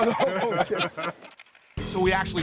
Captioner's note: laughing